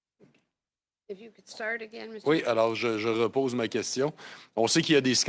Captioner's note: speaking French